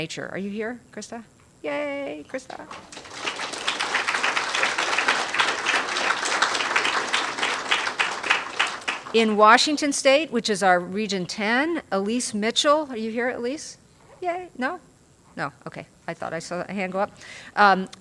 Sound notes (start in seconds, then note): 2.4 applause